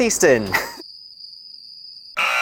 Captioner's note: crickets